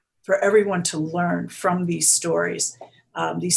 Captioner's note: none